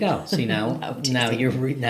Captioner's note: chuckles